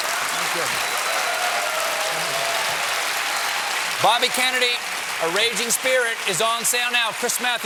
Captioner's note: applause